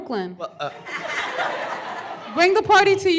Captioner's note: laughter